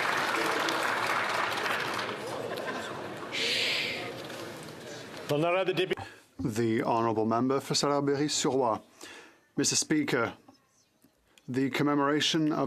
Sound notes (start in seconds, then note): 0.0 some Applause; 10.1 speaking French